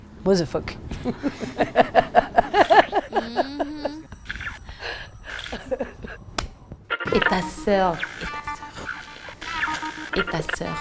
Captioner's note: laughs